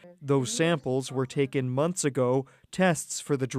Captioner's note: speaking French